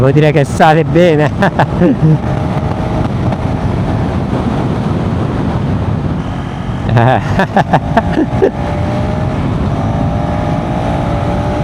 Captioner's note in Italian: risate